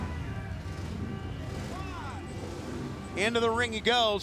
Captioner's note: crowd chatter